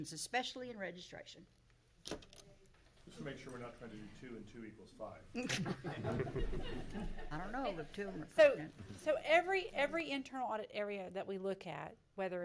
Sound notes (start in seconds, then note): 5.4 laughing